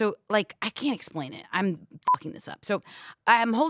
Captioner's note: beep